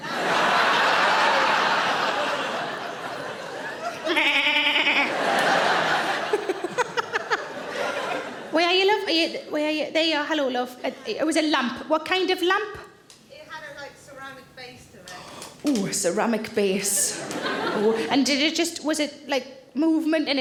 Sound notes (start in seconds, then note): 0.0 audience laughing; 4.1 Sarah bleating; 4.1 audience laughing; 6.2 Sarah laughs